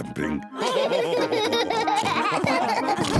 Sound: all laugh

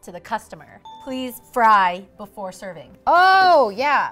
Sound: ding

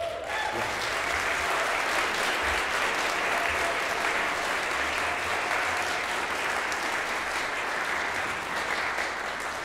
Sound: applause

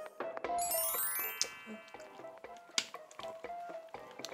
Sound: nom nom

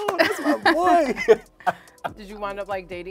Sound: couple laughs

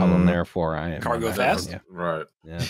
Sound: mutters

